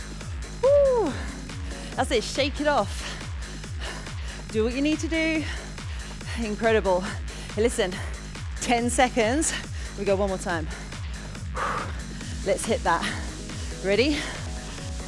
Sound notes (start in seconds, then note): 0.6 exclaiming